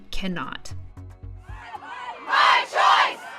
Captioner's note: crowd